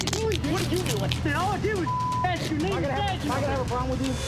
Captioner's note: beep